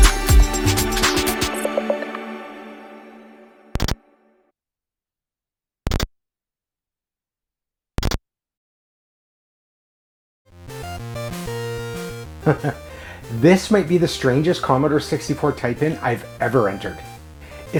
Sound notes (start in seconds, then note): 3.7 C64 'chunk' sound; 12.4 chuckles